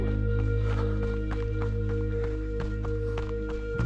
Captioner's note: footsteps